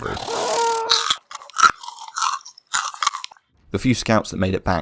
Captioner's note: distinct sounds of flesh eating insects